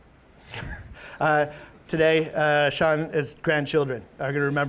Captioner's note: laughs